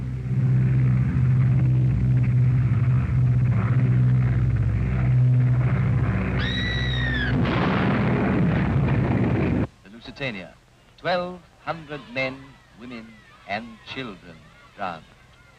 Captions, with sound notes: (bomber engines humming) (person screams) (explosion booms) The Lusitania. 1,200 men, women and children drowned.